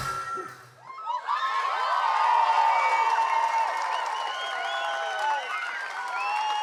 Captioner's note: cheering, applause